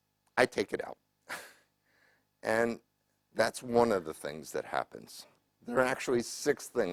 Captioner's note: laugh